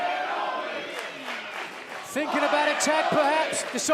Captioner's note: fans chanting